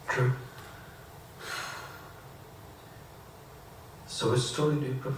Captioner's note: sigh